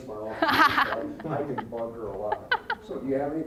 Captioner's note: scattered laughing